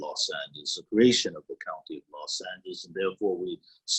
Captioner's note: faintly speaking